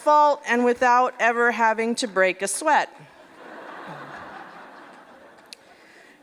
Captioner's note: laughter